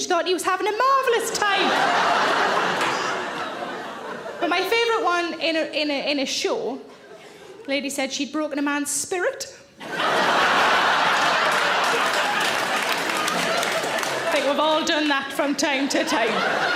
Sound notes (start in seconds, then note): 1.2 audience laughs; 9.8 audience laughs and applaud